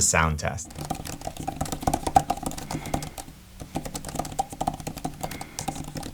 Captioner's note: Apple Magic Keyboard clacking